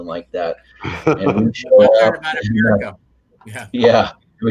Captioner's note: speakers laughing and talking at once